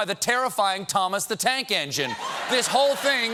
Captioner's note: laughter